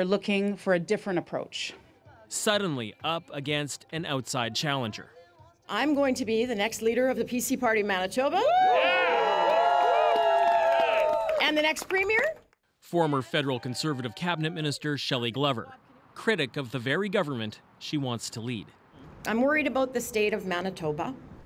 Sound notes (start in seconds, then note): 13.0 cheers and Applause